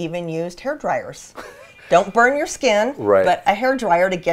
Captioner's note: chuckles